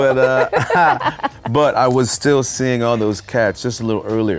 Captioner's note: laughing